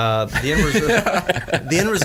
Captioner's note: all laugh